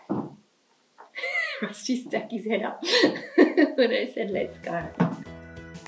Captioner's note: laughs